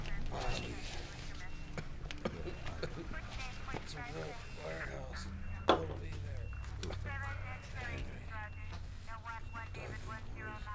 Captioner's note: Junior mumbling answers